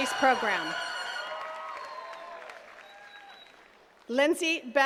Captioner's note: attendees cheering and clapping